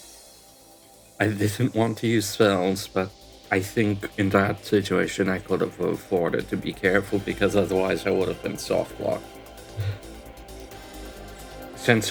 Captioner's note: sigh